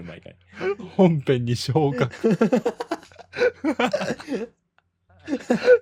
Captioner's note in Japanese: 笑い